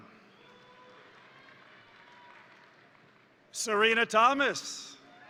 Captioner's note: crowd cheering; crowd applauding